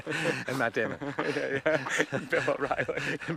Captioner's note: both laughing; laughs